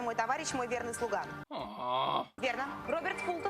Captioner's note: moans